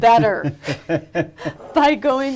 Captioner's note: both laughing